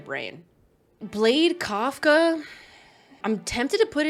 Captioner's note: sighs